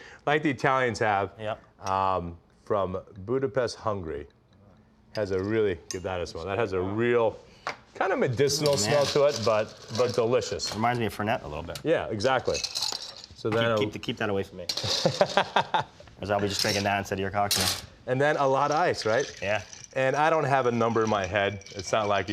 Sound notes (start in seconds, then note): 15.0 laughs